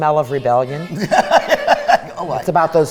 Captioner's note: laughing